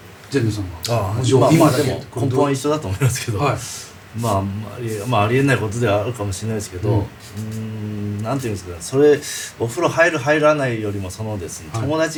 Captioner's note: laughs